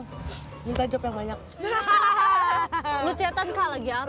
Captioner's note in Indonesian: Ketawa